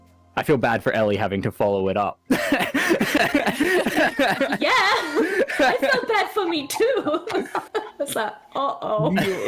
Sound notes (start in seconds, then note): 2.4 all laughter; 7.3 more giggles